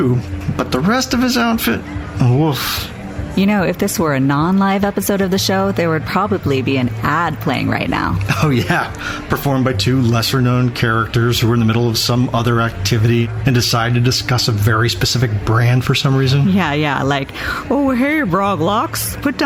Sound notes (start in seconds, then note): 17.2 doing a voice